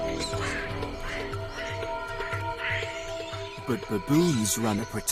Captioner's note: tense music continues; baboons squealing